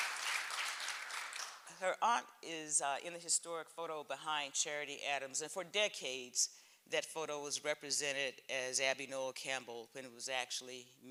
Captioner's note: applause